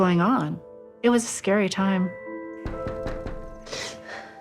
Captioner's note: door knocking